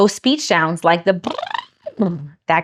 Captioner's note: imitates sound